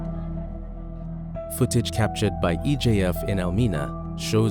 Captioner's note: voiceover